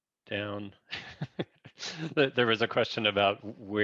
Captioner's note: laughs